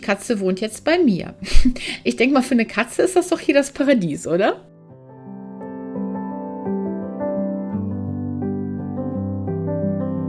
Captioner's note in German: gelächter